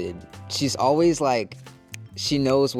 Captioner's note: snapping